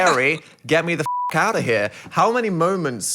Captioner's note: beeping